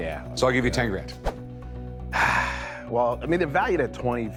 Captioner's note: sighs